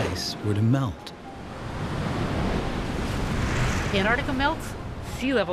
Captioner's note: ice crashing